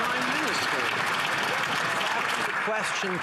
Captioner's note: some Applause